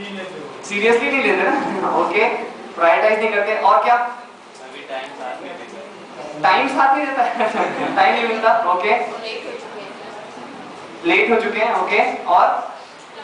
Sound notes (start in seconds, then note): 7.2 laughs